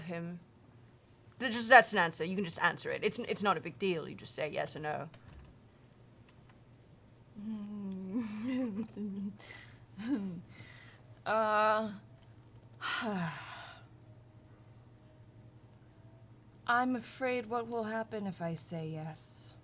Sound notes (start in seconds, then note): 7.4 sighs